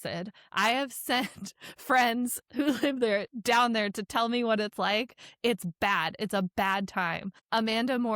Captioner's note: chuckles